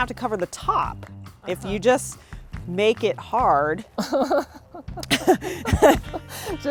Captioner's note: laughing